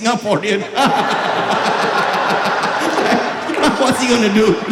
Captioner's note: maniacal Laughter